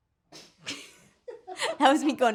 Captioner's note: laughs